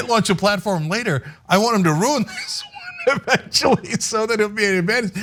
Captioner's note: laugh